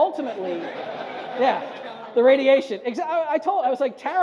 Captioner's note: audience laughs